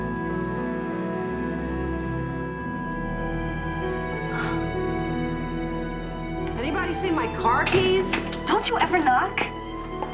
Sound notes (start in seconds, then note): 6.6 door opens